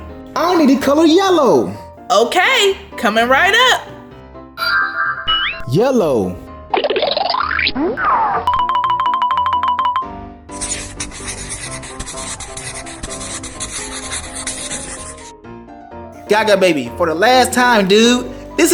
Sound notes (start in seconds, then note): 4.5 futuristic zapping; 6.7 blooping; 8.5 alternating high-pitched piano keys; 10.5 squeaky shuffling